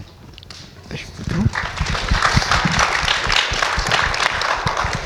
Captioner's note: audience applauds